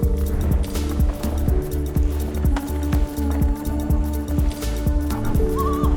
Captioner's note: whooshes past trees